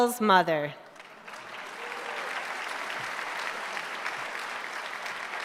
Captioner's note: applause